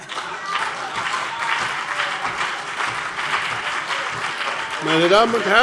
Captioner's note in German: Heiterkeit und Beifall BÜNDNIS 90/DIE GRÜNEN und CDU